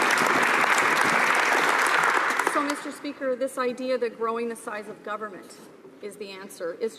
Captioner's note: some applause